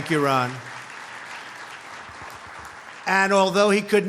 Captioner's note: applause